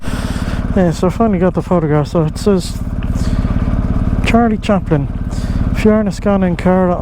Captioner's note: speaking irish